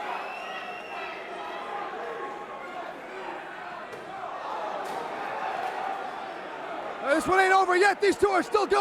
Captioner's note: crowd chatter; crowd cheering